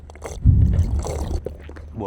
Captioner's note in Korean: 또다시 들리는 폭격음